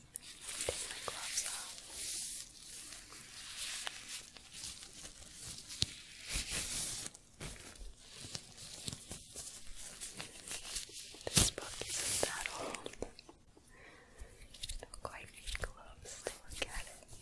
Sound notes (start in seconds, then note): 2.3 glove sounds